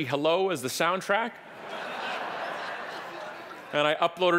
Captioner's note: audience laughing